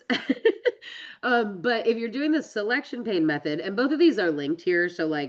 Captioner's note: laughs